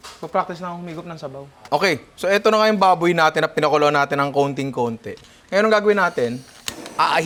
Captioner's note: none